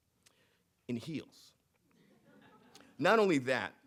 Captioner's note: audience laughing